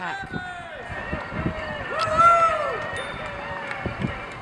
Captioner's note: crowd cheering